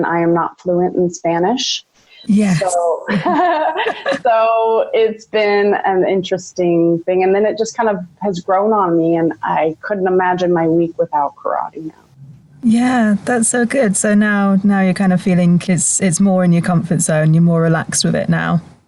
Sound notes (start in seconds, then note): 2.4 laughs